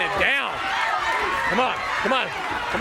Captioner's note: crowd cheering